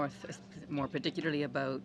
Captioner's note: speaking French